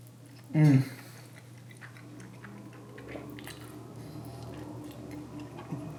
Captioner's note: chews